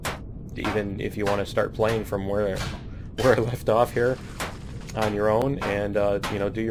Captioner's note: pinging